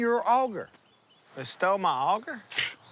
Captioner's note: scoffs